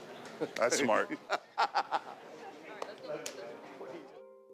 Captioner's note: Ric laughs